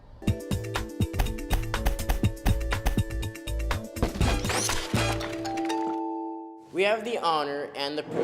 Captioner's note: books Stacking